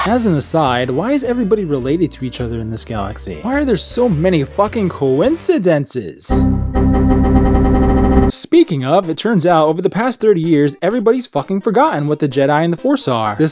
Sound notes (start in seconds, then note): 6.3 Windows error sound; 6.3 Windows error sound repeats faster and faster